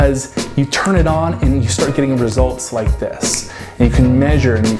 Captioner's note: fingers snap